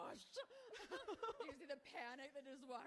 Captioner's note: both laughing